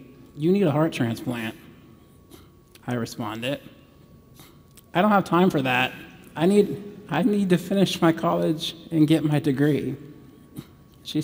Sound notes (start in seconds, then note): none